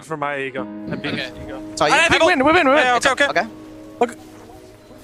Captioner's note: teammates communicating